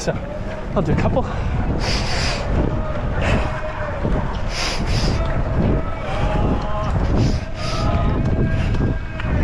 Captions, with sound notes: So I'll do a couple. (breathing heavily)